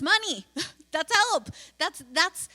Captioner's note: laughs